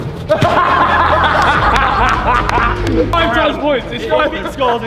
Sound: group laughs

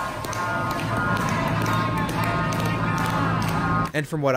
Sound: ride crew clapping and chanting; ride crew and several riders clapping and chanting

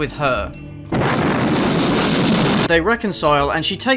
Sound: A loud wet explosion

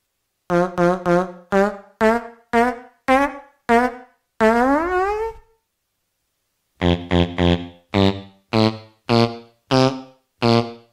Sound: melodic farts

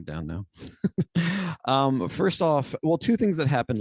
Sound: laughter

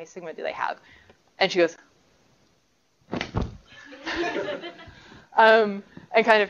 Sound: knocking sound

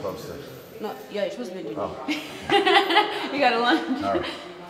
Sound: laugh

